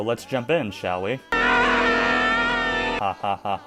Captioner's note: Albert Finny screaming